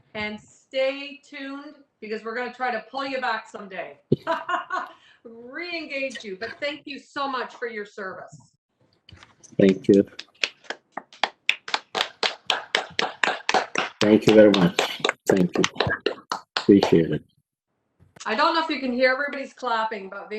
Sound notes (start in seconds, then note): 4.1 chuckles; 9.6 applauding